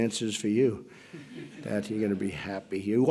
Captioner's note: laughter